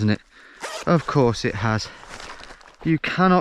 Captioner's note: zip buzzing